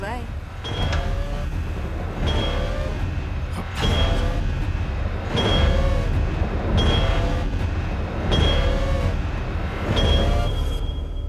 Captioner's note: heavy pulsating sound